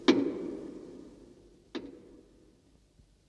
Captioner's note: knock